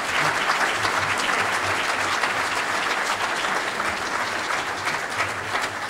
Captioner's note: audience applauding